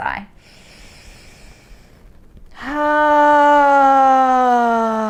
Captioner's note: inhaling and sighing